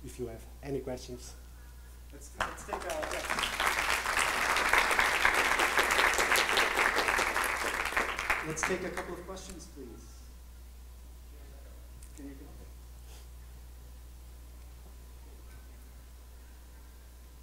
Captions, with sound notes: if you have any questions. (applauding) - [Voiceover] Let's take a couple of questions please.